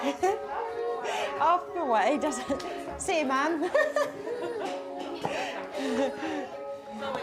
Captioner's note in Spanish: risas